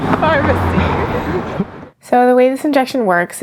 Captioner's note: laughs